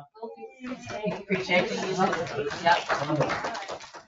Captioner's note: all clap